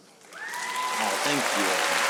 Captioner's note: audience applauding